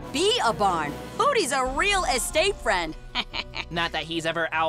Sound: chuckles

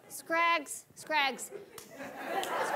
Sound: audience laughing

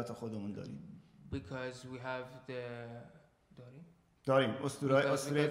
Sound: speaking in farsi

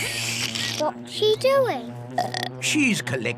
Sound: slurps; belches

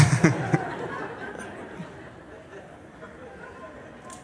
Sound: laughter

